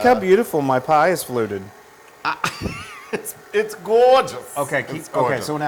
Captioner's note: laugh